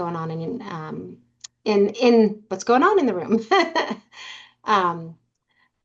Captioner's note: laughs